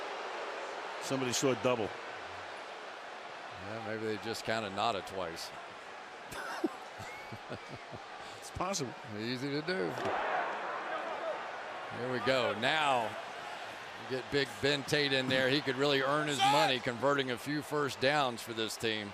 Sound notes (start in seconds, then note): 6.3 laughter